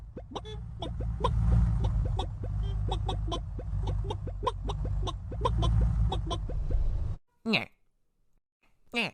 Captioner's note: chicken Noises